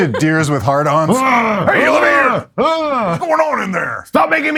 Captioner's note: grunting